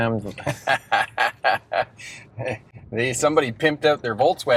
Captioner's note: laughing